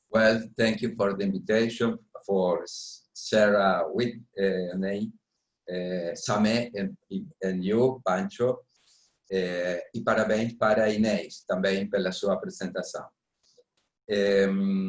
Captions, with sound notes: Well, thank you for the invitation, for Sarah Whiting Sameh, and you, Pancho. [SPEAKING PORTUGUESE]